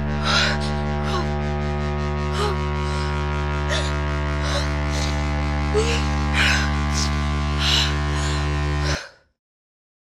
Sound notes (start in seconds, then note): 1.5 breathing heavily